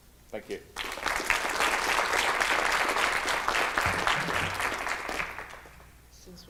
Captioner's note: clapping